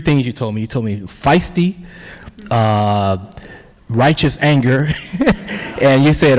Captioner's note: laughs